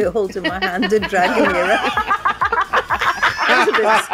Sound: laughter

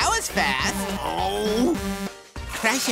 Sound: groaning

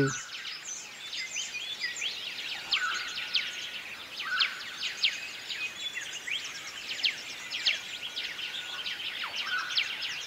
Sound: birds chirping

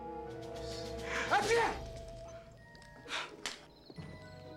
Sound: sneezes

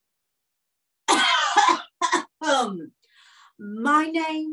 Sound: flawless coughing

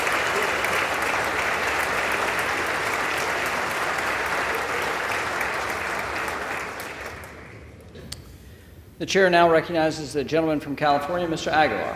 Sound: applause

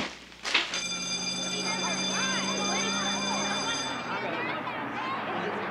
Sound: bell ringing; students chattering

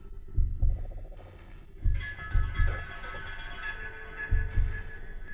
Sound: indistinct rattling

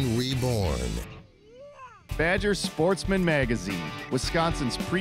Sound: whooahh!

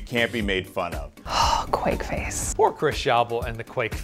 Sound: sighs

